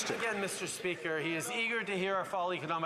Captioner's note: applause